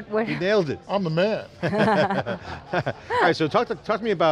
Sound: laughter

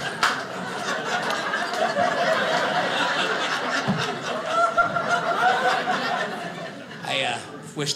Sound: audience laughing

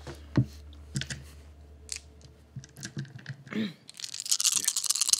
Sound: dice rolling

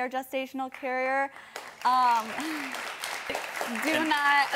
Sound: audience clapping

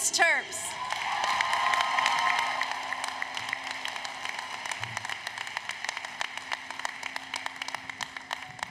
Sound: applause, Cheering

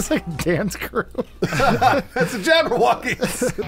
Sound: laughing

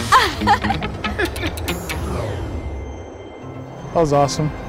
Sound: both laugh; gentle music

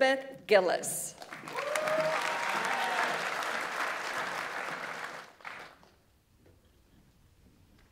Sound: audience applauds; audience members cheer

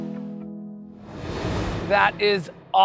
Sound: graphics whooshing

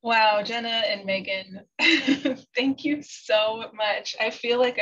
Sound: laughter

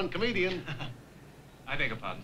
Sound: laughs

